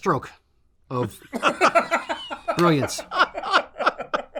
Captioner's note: everyone laughs